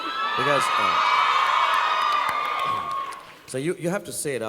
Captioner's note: audience cheering